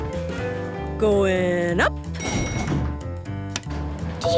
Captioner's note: elevator pings